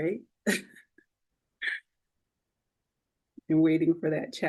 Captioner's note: laughing